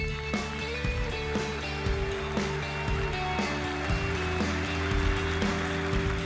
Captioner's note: applause